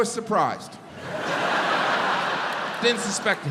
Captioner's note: audience laughs